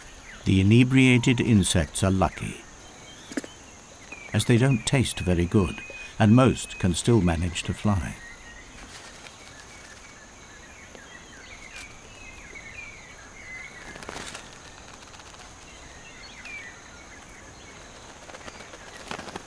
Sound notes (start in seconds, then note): 8.1 nature sounds